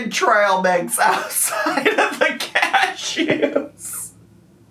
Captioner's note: laughs